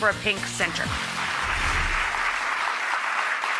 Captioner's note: applause